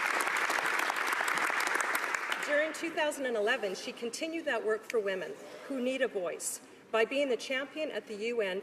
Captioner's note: applause